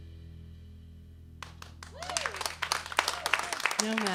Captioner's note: applause and cheering